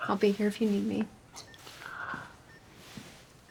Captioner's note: Florio inhales